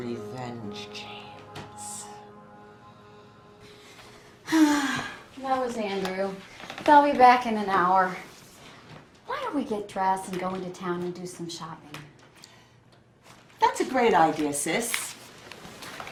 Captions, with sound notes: I think revenge James. (sighing) - That was Andrew. They'll be back in an hour. Why don't we get dressed, and go into town and do some shopping. - That's a great idea Sis.